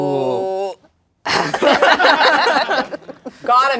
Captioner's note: everyone laughs